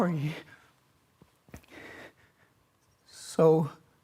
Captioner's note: heavy breathing